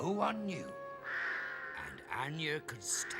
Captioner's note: cawing